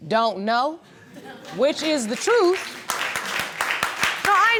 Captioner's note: audience laughing and applauding